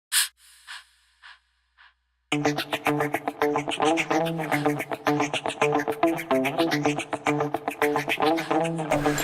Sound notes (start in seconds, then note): 0.2 exhaling; 2.5 energetic music